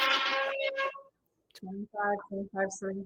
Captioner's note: pan scraping